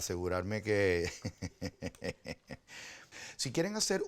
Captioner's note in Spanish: risas